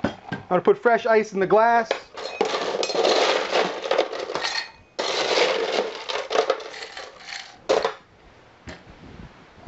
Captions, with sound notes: I'm gonna put fresh ice in the glass (sound of ice being scooped)